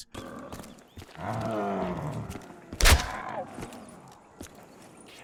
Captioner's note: zombie groaning